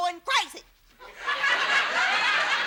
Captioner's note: audience laughs